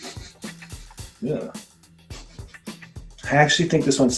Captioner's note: smells aloud